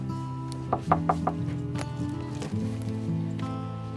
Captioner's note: KNOCKlNG AT DOOR